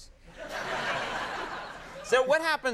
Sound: audience laughs

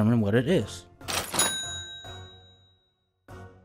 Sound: cash register sound

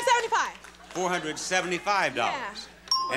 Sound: chime

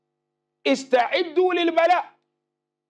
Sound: Arabic

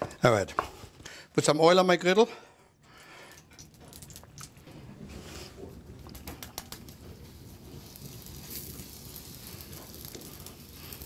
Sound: sizzling

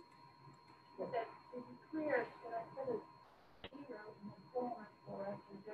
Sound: student speaking faintly

